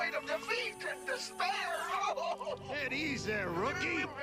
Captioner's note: sobbing